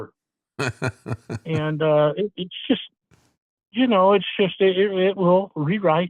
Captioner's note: laughing